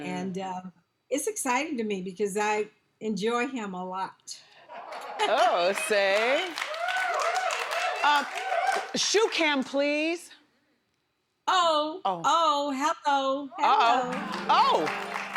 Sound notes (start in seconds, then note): 4.7 audience claps; 7.4 audience cheers; 13.9 soft harp music